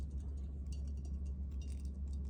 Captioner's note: insect rattles in lamp